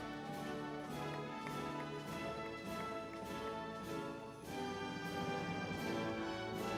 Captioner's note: crowd cheers